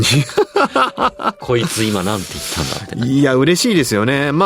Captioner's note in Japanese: 笑い